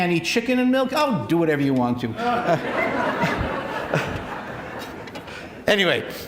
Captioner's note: laughter